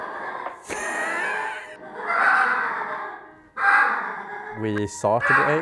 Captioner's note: fowl lure noises